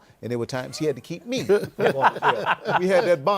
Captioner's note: laughter